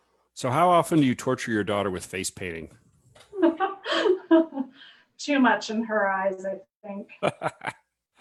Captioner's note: laughs